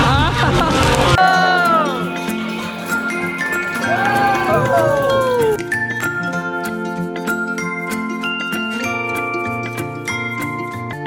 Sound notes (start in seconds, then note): 1.6 cheering